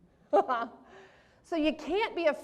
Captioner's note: laughs